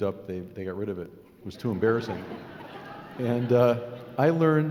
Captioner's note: laughing